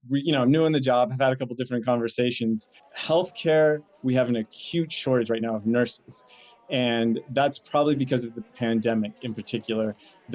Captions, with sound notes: You know, I'm new in the job. I've had a couple different conversations. Healthcare, (people chattering) we have an acute shortage right now, of nurses, and that's probably because of the pandemic in particular.